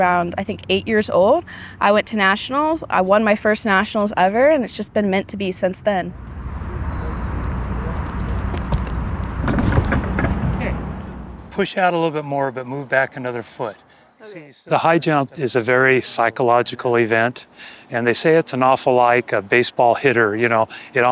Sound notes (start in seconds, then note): 7.6 footsteps approaching; 9.3 pole rattling & impact noise